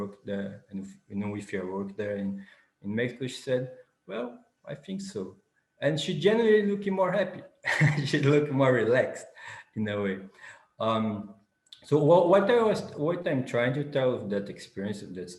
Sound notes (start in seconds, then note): 7.6 laughs